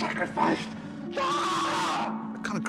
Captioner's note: screams